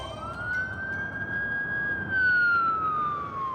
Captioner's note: siren